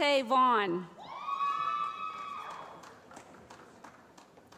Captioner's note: cheering